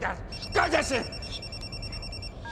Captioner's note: cell phone rings